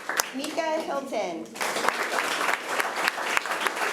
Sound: applause

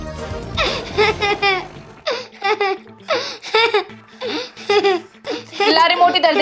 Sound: laughing

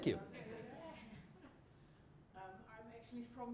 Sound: audience chuckles

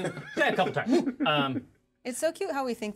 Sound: speaker laughs

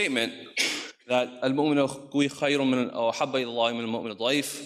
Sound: speaks in foreign language

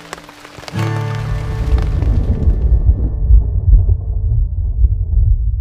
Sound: thunder

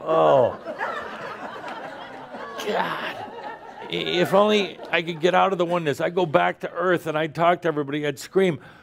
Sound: laughter

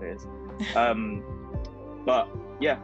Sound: chuckling

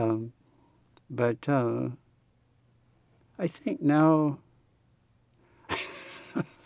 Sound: laughs

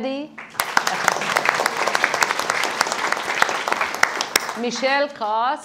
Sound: audience applauding

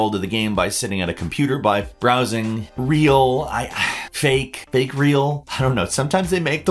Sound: sighs

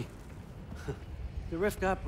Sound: laugh

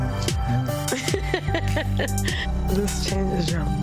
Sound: Erica laughing

